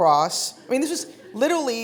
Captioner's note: audience chuckling